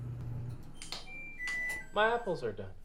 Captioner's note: machine beeping